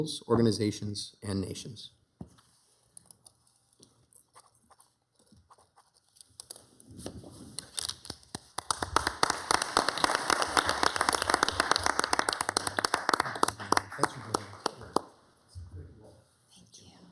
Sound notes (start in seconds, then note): 5.4 pen scribbling; 7.8 members and attendees applauding